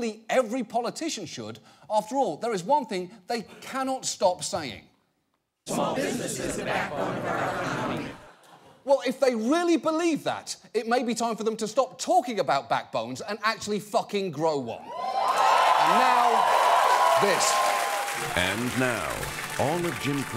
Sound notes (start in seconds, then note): 15.0 audience applauding